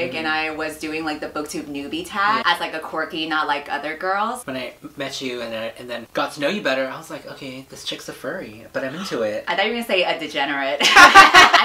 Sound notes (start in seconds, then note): 8.9 gasps; 10.9 laugh